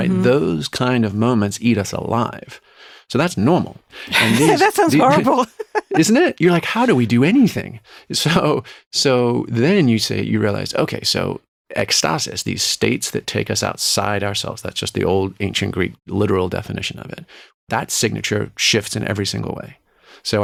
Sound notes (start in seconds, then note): 4.1 laughs